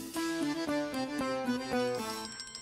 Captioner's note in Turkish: Telefon çalar